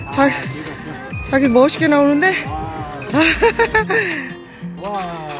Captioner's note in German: Gelächter